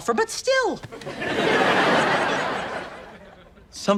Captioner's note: audience laughs